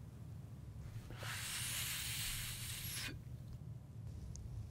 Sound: smoking noises

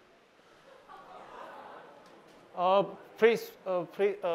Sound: laughter

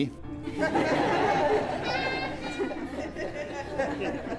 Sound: congregation laughs

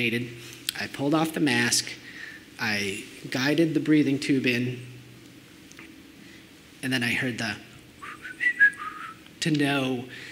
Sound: whistles

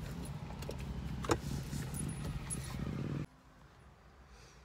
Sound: seatbelt clattering

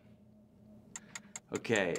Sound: timer ticking

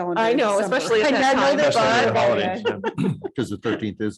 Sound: group chattering

